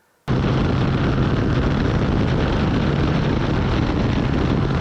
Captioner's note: motorcycle engine sound